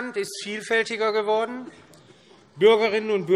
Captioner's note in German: none